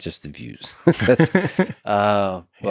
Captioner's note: Tim laughs